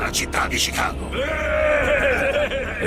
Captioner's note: cheering